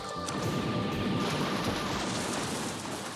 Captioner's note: gunshots; water splashes